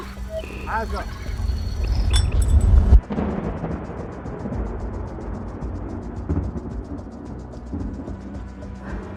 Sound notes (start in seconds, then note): 2.3 thunder rumbling